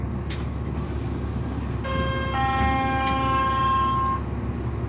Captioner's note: 99 B-Line Chime